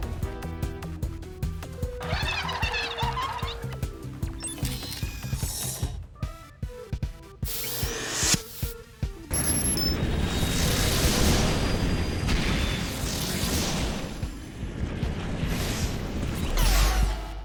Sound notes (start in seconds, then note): 2.0 cheers and applause